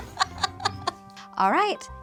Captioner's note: laughs